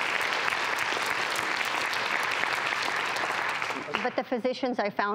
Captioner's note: audience clapping